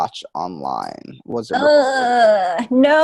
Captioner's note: groans